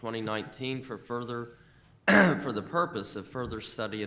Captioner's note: coughs